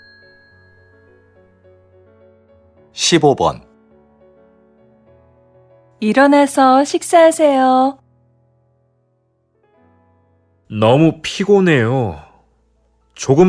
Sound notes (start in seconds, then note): 2.9 Korean audio